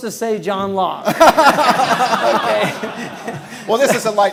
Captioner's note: laughing